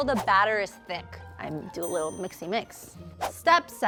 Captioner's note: bell dinging